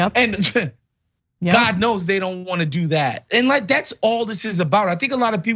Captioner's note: laugh